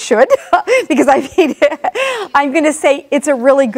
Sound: laughs

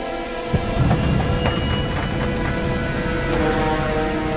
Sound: plane rattles

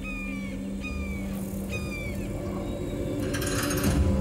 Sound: bird cawing

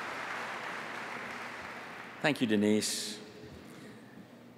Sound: applause

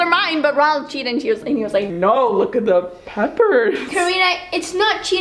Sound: laughter

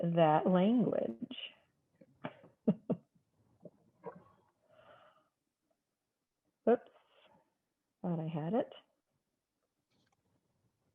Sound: laughter

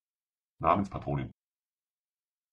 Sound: fast Pronunciation

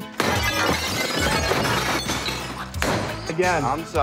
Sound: shattering

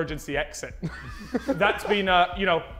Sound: Sidemen laughing

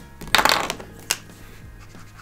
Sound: marker cap clicks off

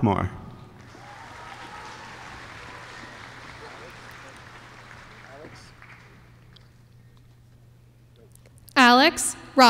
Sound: applause

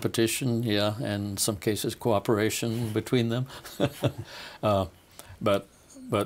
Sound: laughing

